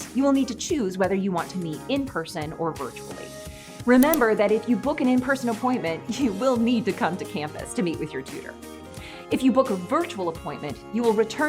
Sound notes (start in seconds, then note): 4.0 mouse Click